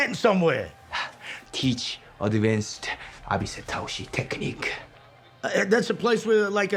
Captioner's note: speaking in foreign language